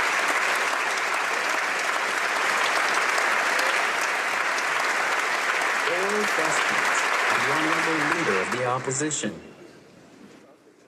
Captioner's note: applause